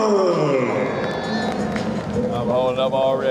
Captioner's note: crowd applauding